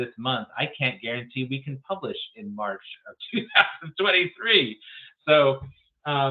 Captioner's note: laughs